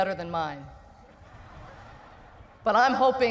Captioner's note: laughter